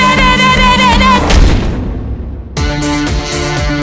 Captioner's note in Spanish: thud